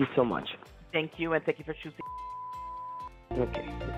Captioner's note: beep